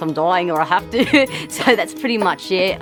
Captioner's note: laughing